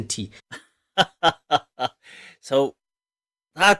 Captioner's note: Ketawa